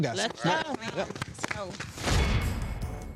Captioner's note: all applauding